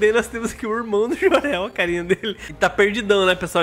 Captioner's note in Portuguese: risos